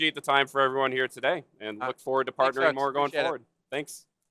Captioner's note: applause